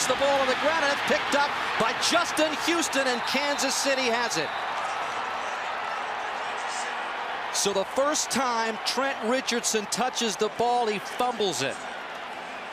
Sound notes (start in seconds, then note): 5.4 cheering